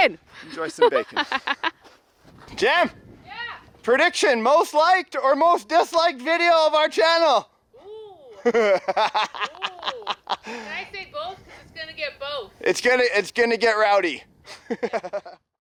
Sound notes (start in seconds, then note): 0.8 laughing